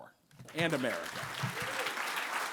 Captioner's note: applause